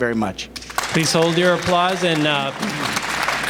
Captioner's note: applause